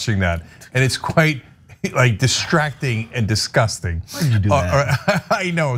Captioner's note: laugh